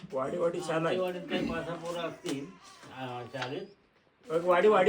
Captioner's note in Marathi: घसा साफ करणे